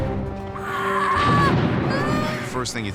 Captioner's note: screaming